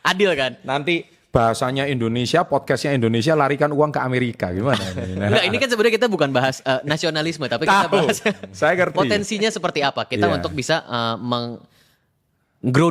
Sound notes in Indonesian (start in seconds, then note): 4.7 tertawa